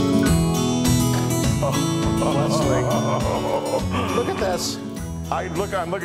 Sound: laugh

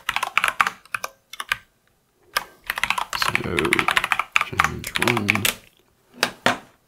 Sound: typing; typing

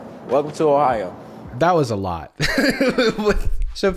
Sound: laughs

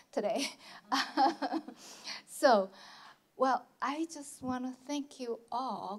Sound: laughs

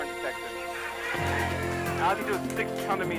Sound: upbeat music; cheering

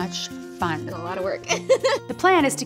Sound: laughs

